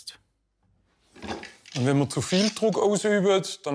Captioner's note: none